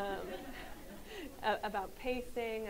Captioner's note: audience laughs